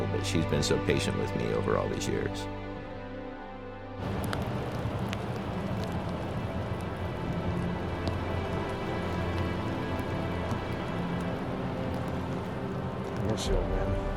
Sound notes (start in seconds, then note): 3.7 somber music; 3.9 rain pattering